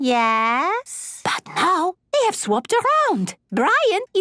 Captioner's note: whispering